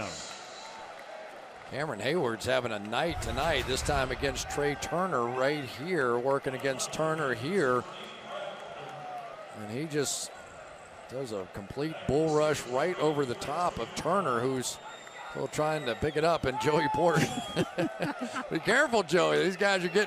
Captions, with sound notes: Fourth down. Cameron Hayward is having a night tonight, this time against Trai Turner right here. Working against Turner here. And he just does a complete bull rush right over the top of Turner, who's trying to pick it up. And Joey Porter-- [laughter] Be careful, Joey.